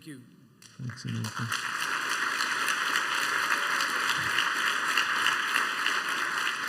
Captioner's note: applause